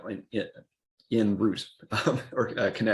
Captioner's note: laughs awkwardly